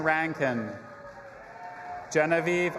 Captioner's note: audience applauding and cheering